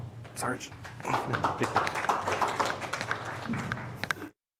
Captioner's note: applause